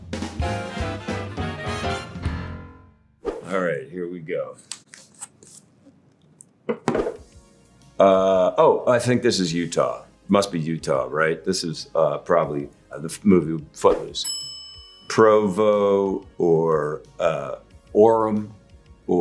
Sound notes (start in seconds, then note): 0.2 upbeat music; 14.2 bell dinging